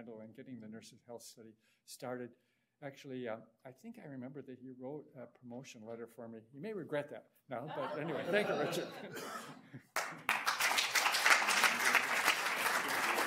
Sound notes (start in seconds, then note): 7.6 audience laughs; 9.9 audience applauds